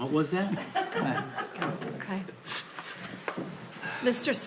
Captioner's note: board laughs